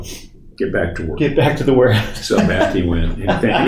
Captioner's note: laughs